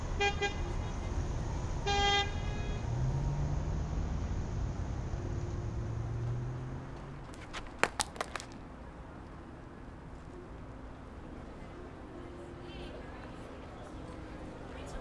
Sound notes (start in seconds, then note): 0.1 car horning sound; 7.6 earphone dropping sound; 14.5 sound of people muttering